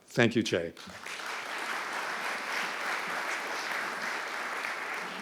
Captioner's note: audience clapping